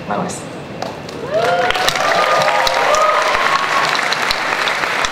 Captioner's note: audience cheering and applause